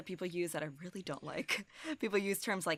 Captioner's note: chuckles